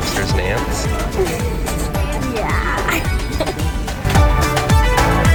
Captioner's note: laughs; upbeat music